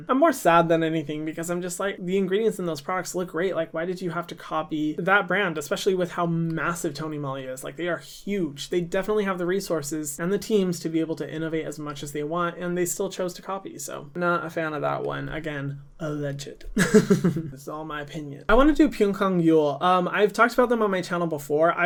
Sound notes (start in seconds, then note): 16.7 laughs